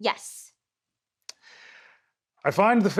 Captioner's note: inhales